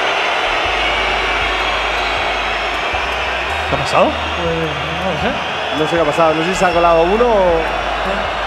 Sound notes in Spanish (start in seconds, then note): 0.0 Pitos del público